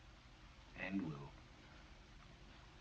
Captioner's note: none